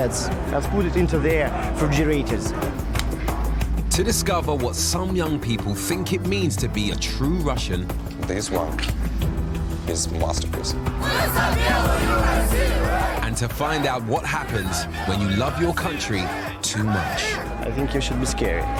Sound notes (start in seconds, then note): 11.0 crowd chanting in foreign language